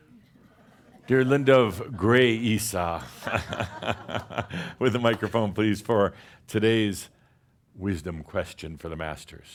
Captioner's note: chuckles